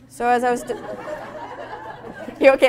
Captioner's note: audience laughing